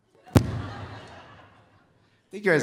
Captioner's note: audience laughing